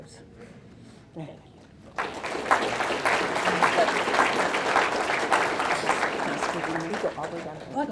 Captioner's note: audience clapping